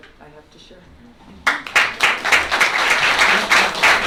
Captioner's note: applause